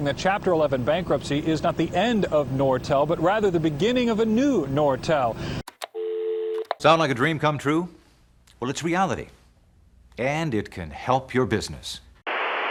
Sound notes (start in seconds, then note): 5.6 click; 5.9 dial tone; 12.2 static